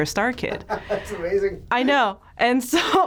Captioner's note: laughs